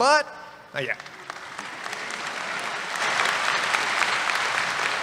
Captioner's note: applause